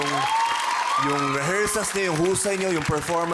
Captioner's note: crowd cheering, applauding